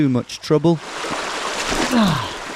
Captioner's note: water splashing; groans